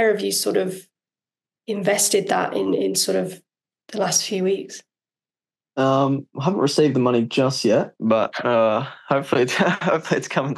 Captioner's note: laughs